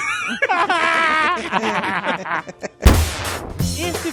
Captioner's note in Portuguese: risos